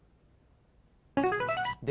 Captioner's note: answer bell